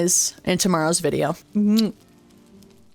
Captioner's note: kiss